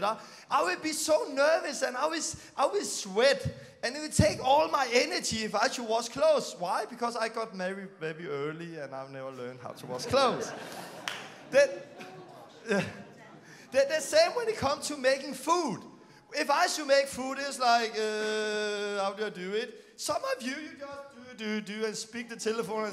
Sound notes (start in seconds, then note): 9.8 laughing